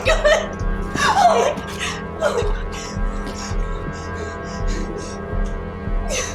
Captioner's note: weeping